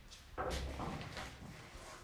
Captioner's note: quiet clattering